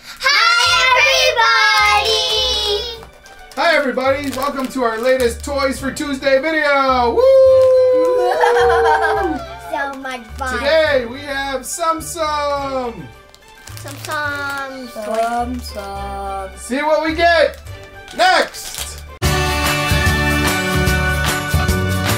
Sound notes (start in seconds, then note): 8.0 crazy laughing; 19.3 lively music